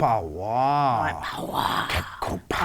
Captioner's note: alien sounds